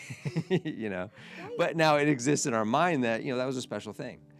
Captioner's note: laughs